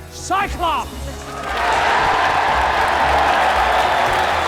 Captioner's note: cheering